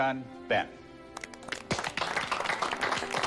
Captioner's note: applause